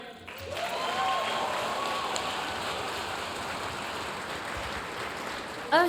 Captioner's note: audience cheering and applauding